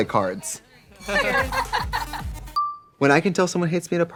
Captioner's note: people laughing